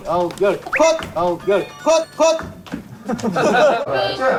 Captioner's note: immature footsteps belong to none other than the director